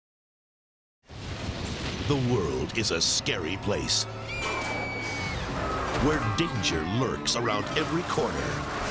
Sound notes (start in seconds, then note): 1.1 flames whooshing; 4.2 people screaming